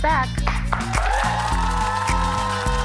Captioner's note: applause